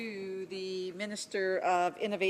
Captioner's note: speaking french